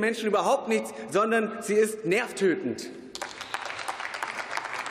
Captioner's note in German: Beifall